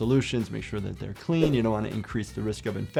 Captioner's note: screen whooshing